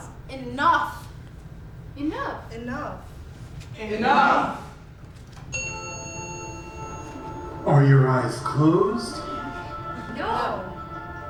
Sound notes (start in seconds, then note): 5.5 ding